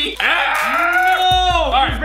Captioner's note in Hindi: घुरघुराता है